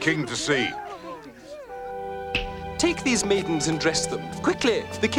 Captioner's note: snaps